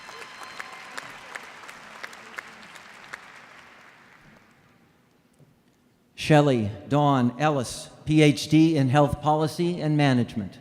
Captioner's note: applause